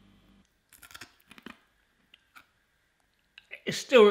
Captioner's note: crunching